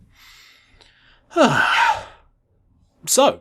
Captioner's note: sigh